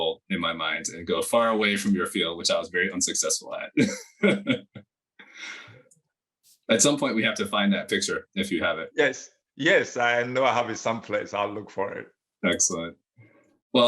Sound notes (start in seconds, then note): 3.7 laughs